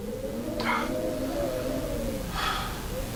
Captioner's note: gasps for air